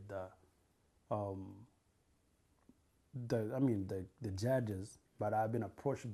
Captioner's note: pauses for 3 seconds